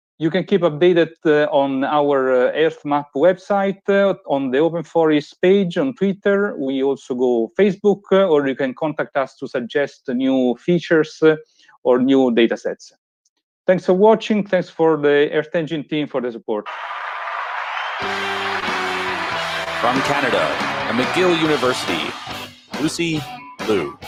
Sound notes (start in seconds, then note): 16.6 applause